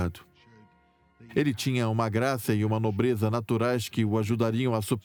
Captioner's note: voiceover